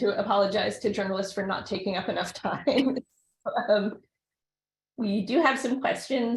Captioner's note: chuckles